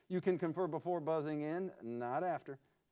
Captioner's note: none